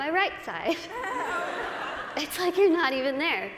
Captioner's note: laughter